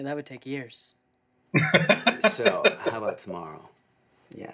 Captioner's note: laughing